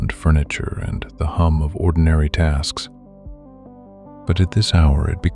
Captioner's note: low voice